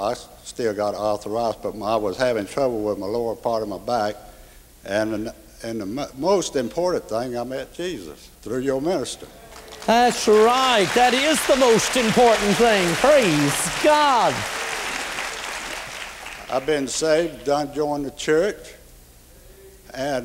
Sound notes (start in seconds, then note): 9.6 applause